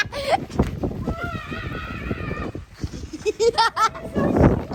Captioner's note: girl laughing; woman screaming; girl laughing